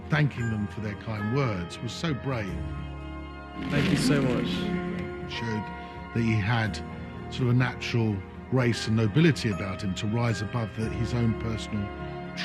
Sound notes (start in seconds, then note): 5.4 voiceover